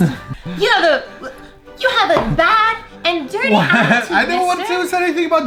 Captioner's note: falsetto voice